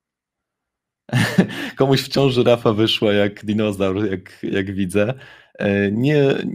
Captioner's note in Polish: śmiech